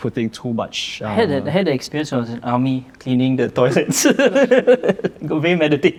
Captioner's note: laughs